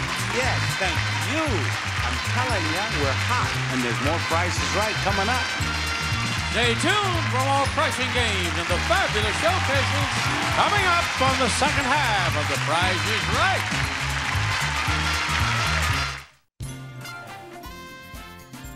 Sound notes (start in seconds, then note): 13.8 audience applauding; 13.8 upbeat music